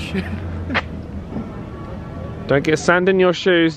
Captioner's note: laughs quietly